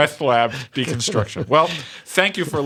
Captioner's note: laughter